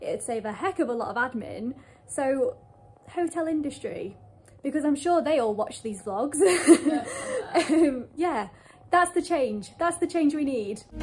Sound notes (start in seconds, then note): 6.6 laughs